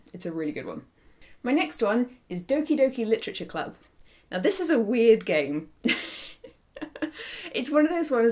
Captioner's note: laughs